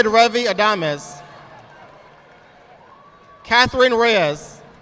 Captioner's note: audience applauding